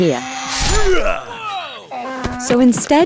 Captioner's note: Samson grunts